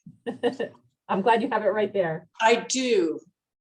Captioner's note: laughs